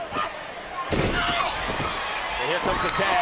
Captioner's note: ring thuds